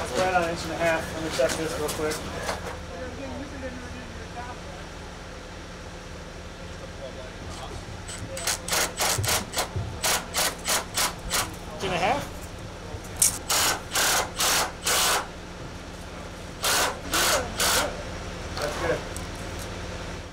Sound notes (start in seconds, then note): 3.7 laborers chattering; 10.0 machine revving; 13.3 machine revving